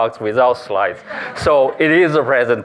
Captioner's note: laughter